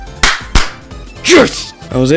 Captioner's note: clap